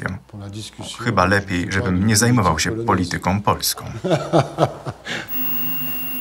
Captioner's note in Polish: śmiech